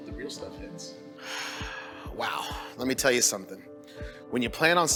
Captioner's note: sighs